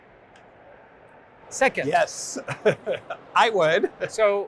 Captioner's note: laughs